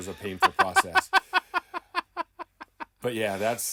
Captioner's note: laughing